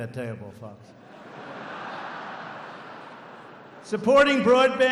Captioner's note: laughter